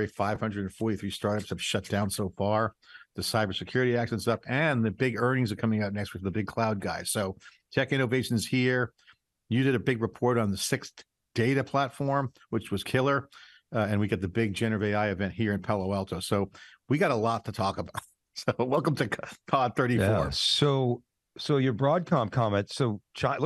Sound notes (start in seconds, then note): 17.8 laughing